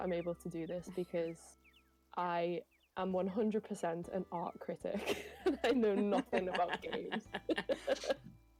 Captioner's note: laughter